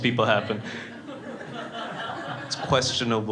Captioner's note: crowd laughing